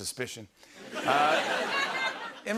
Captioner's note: laughter